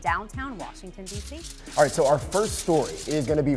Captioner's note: paper rustles